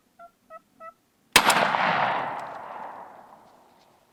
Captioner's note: gunshot